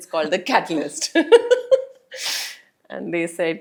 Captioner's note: laugh